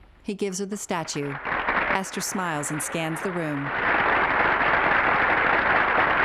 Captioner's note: applause